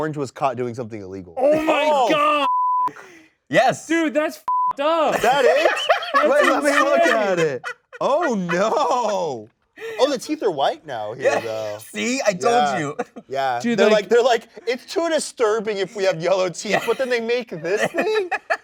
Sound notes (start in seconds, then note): 5.1 laughs